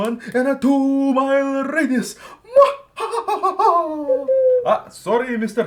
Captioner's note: hoot hoot